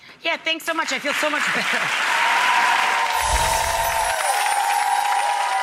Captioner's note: applause drowns out speaker